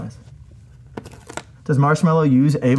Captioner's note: sticker rips